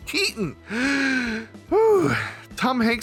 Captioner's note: inhales deeply